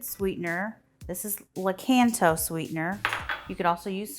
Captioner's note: bowl rattles